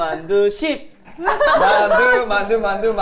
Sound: laughing

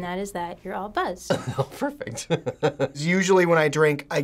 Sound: chuckles

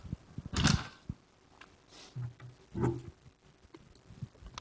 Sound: page rustles

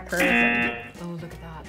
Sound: buzzer rings

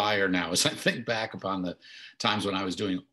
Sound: chuckles

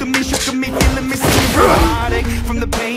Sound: Barou grunt

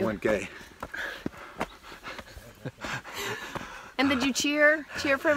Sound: laughs

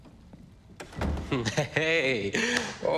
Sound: door opens, slams

